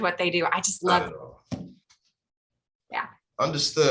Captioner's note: audio drops